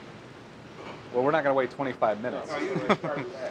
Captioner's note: laughs